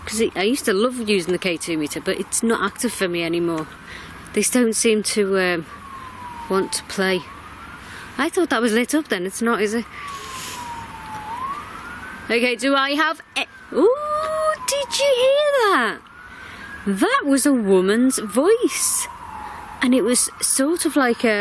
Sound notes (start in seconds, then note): 13.4 hoots